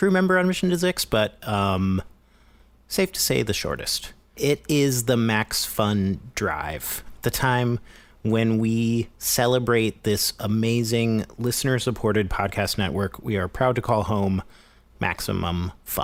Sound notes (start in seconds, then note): none